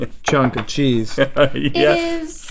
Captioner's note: laughs